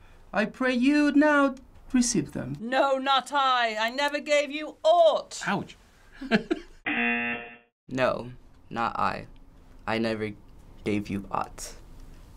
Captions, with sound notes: I pray you now receive them. - No, not I. I never gave you aught. - Ouch. (chuckles) (buzzer) - No, not I. I never gave you aught.